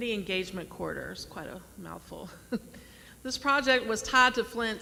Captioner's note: laughs